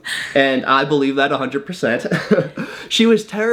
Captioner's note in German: lacht; lacht